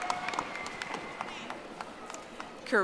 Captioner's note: audience applauding